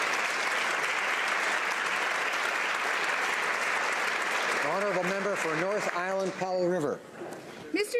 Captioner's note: applause